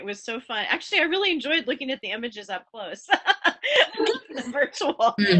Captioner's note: laughs